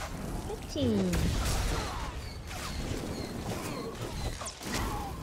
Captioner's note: gunshots